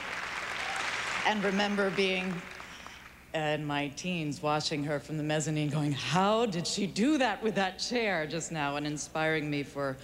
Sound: applause

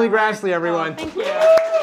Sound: applause

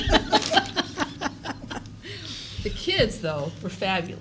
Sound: laughter

